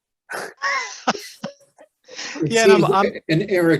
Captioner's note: laughing